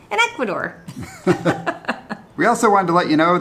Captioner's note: both laughing